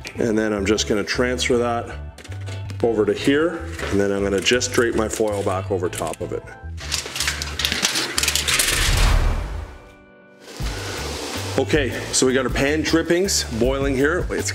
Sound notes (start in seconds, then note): 6.8 foil rattles; 8.6 whooshing